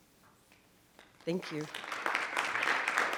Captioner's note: group applauds